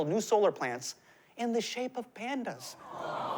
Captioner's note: audience "ooh's"